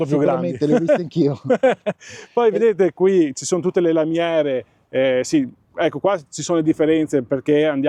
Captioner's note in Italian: risate